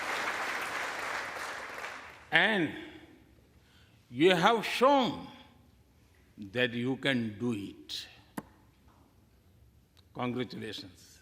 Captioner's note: applause